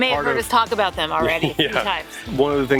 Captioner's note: laughs